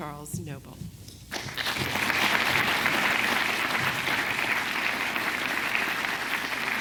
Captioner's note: clapping